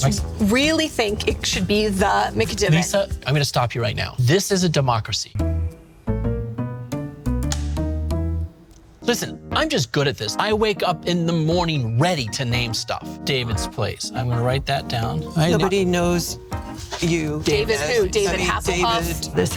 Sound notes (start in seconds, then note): 5.3 playful music; 7.4 clapperboard snaps